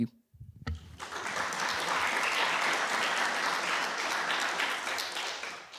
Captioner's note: applause